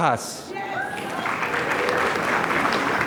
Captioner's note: applause